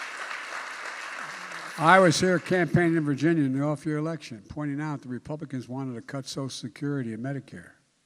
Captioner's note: applause